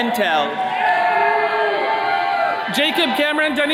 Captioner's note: attendees cheering